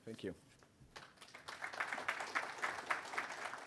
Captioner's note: applause